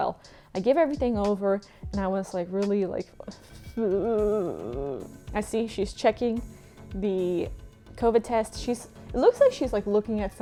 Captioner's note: worried sounds